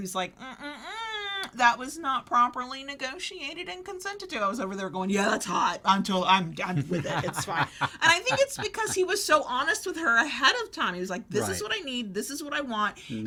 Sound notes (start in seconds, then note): 6.8 chuckles